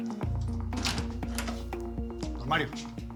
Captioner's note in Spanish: ruido al abrir la puerta